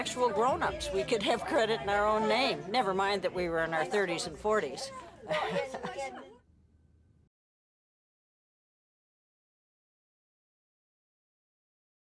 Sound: laughs

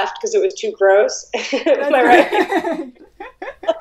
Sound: Risas

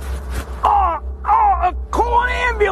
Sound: oldman noises

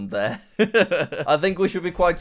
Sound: laughs

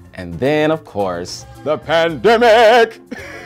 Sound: laughing

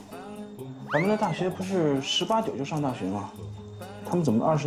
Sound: murmuring

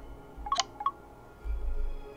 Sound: phone chime

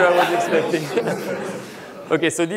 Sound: laughter

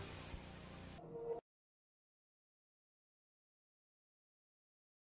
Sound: silence

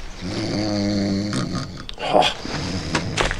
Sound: snoring

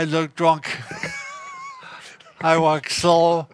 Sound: laughs

